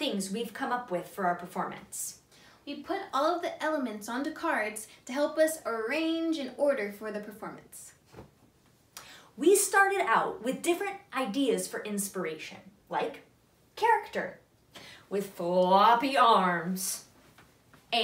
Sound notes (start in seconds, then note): none